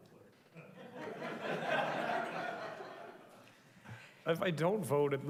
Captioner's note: group laughing